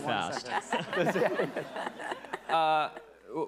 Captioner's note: attendees laughing